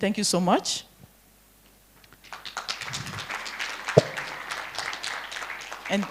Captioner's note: applause